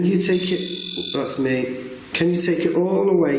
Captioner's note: REM-POD beeping